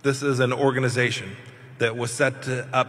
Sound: none

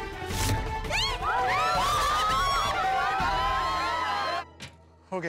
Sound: cheering

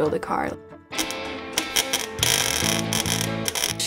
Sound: sparking noise

